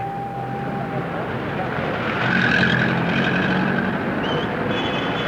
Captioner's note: city noise